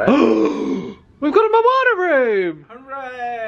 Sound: gasps

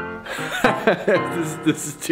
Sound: chuckles

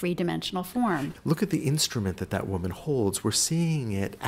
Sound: voiceover

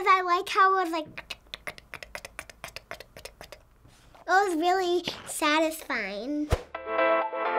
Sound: clicks tongue; upbeat music

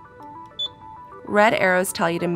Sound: CA-800 beeping

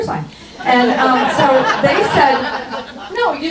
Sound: audience laughs

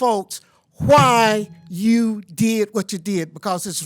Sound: timer buzzes

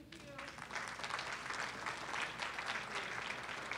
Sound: audience applauds

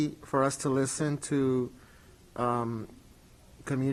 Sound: none

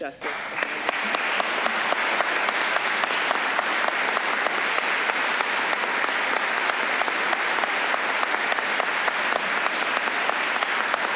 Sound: applause

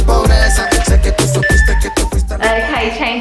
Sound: timer beeps

